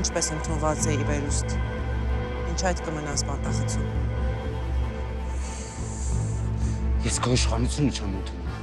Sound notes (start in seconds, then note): 2.3 Zhozef speaking in foreign language